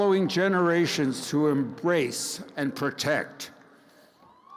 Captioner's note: crowd cheers